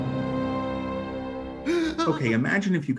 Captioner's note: Scarecrow gasps